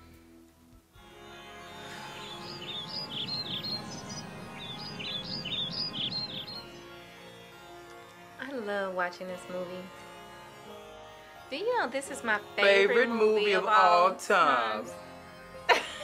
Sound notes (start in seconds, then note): 1.6 chirping birds; 2.7 mellow music; 15.6 laughter